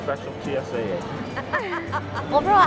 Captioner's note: laughter